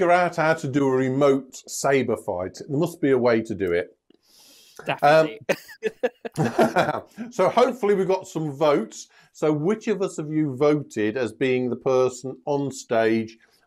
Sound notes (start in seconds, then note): 5.4 laughter